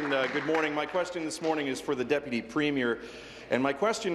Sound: applause

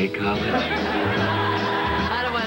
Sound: audience laughter

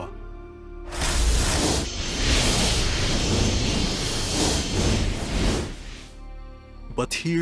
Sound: sounds of space-time being tormented

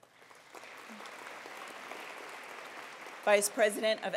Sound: attendees applauding

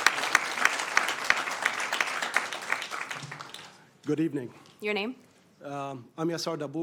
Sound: applause

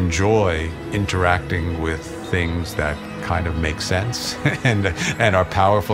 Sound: laughs

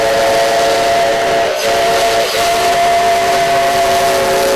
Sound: whistle blowing

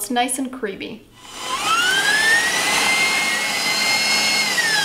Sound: mixer whirring

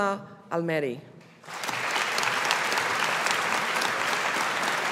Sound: audience applauding

